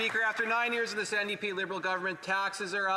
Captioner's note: some Applause